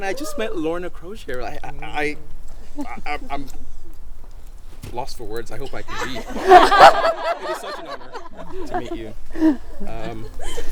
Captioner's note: spluttering; crowd laughs